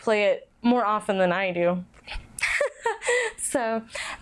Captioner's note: laughs